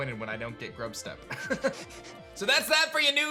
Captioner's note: chuckles